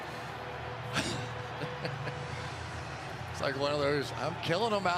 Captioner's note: laughter